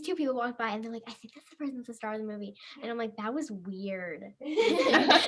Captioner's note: laughs